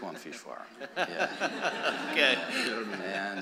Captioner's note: laughter